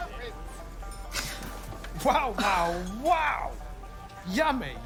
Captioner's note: gasps